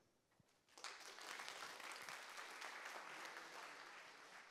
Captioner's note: audience claps